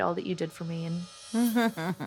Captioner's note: chuckles